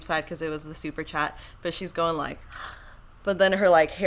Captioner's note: gasps